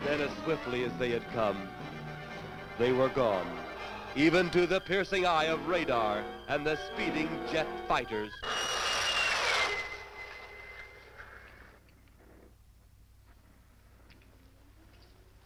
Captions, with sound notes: Then as swiftly as they had come, they were gone. Even to the piercing eye of radar and the speeding jet fighters. (jet engine whistling)